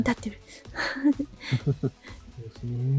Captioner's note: chuckles